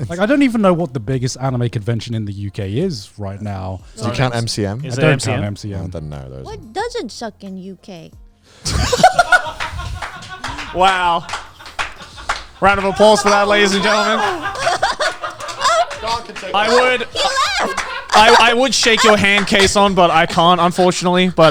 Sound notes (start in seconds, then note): 9.0 everyone laughing; 15.0 everyone clapping